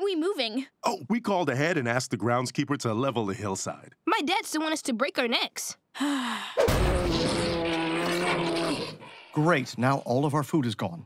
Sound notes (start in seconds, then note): 6.0 sighing; 6.6 growling